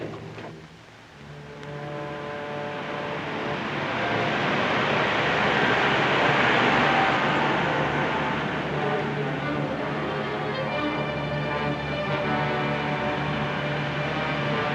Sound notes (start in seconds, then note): 1.2 suspenseful music; 2.8 truck wooshes past; 9.1 suspenseful music